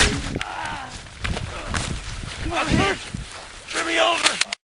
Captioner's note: bullet zips